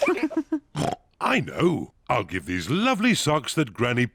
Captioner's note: kids and mummy pig laugh; oinks